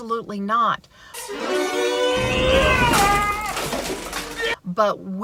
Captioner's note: man yelling